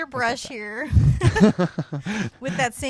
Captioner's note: both laughing